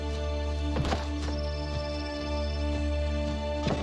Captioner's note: branch thuds